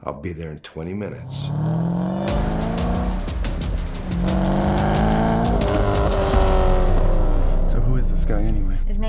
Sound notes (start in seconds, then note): 1.2 engine roaring; 1.6 dramatic music